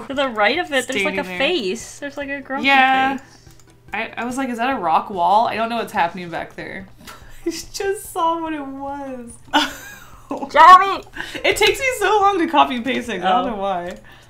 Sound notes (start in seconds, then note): 9.4 laughs